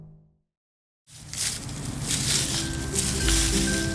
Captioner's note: leaves rustling; upbeat music playing; leaves rustling